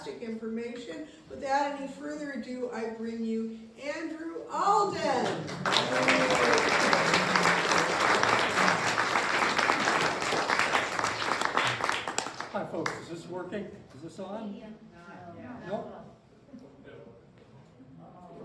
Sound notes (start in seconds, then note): 5.2 applause